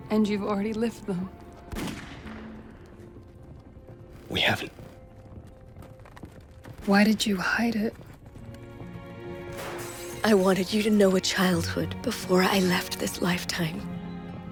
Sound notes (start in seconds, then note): 1.7 gunfire pops; 8.3 sad music